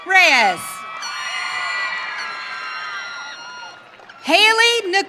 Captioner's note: audience cheering